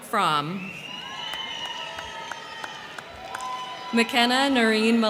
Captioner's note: crowd cheering; crowd clapping